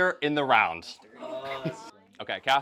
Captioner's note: groans